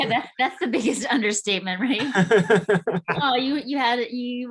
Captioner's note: laughing; laughing